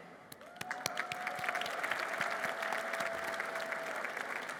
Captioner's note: applause